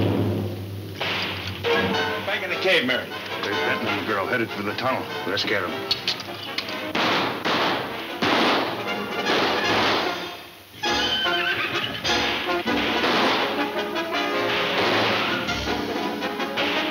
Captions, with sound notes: - Back in the cave, Mary. - There's Benton's little girl, headed to the tunnel. - Let's scare 'em. (guns banging) (dramatic music)